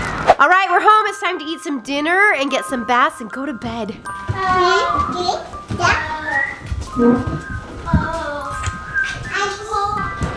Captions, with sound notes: - Alright we're home, it's time to eat some dinner and get some baths and go to bed. (background chattering)